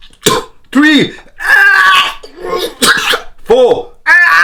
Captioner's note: coughing